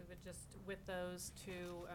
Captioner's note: none